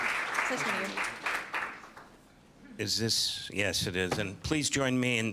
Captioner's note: applause